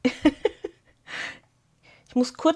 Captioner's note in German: Gelächter